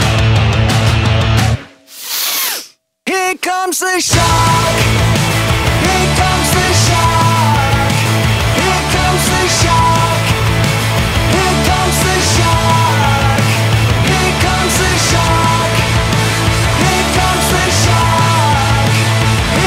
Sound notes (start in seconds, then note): 1.9 sniff